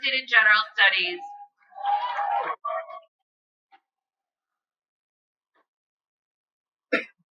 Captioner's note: cheering